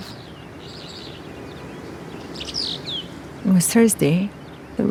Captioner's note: birds chirping